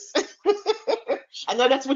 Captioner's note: chuckling